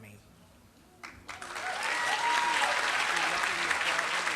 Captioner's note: applause